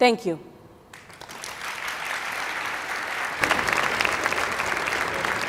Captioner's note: audience clapping